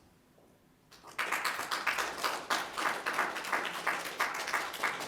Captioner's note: applause